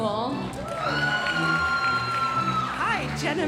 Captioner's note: audience cheering and applauding